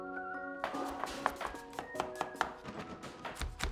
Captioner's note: chopping